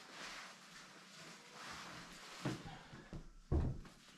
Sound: footsteps

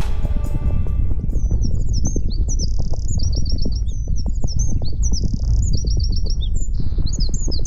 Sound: dramatic music; birds tweeting

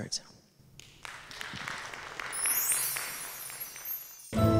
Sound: applause

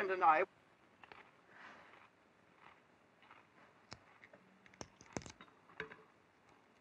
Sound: munching on food

